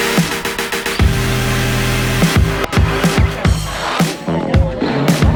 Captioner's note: crowd cheers